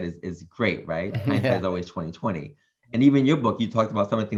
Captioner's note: chuckles